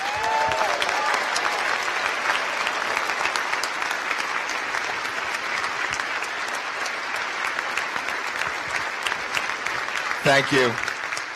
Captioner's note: applause and cheers